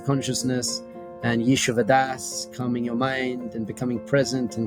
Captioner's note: speaks in Hebrew